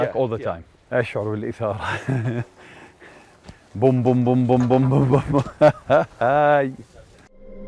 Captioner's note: heartbeats and laughter